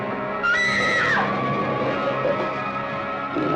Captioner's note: Sheila screaming; ominous music; dog growling